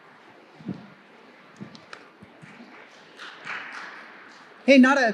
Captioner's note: distant clapping